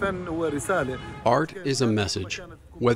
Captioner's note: through translator